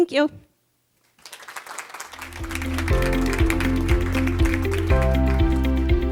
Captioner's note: audience applauding; upbeat music